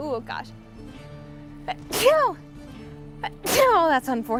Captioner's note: sneeze